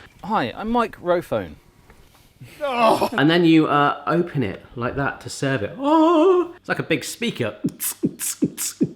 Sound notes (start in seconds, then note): 2.5 laughing